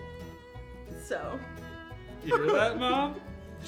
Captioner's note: laughs